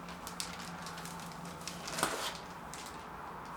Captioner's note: plastic bag noise